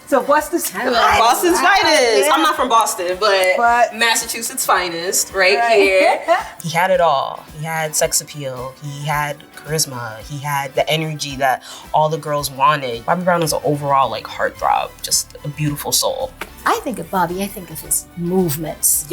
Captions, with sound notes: - So Boston's finest. - Boston's finest! I'm not from Boston, but Massachusetts' finest right here. - Right (laughing). - He had it all. He had sex appeal, he had charisma, he had the energy that all the girls wanted. Bobby Brown is an overall, like, heartthrob. Just a beautiful soul. - I think of Bobby, I think of his movements.